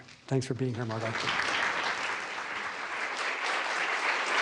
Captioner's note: applause